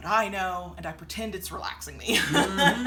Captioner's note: chuckles